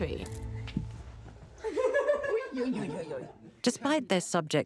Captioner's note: Queen and grandchild laughing